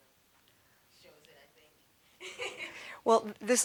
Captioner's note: laughing